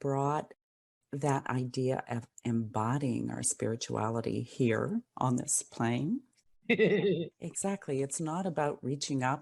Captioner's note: laugh